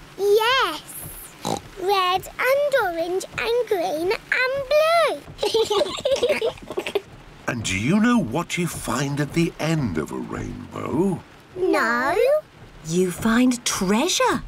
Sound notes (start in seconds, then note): 1.4 oinks; 5.4 both laugh